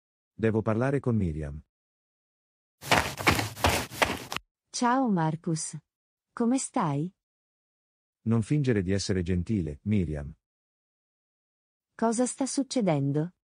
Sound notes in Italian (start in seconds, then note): 2.8 FX - Footsteps - On Multiple Dirt - Run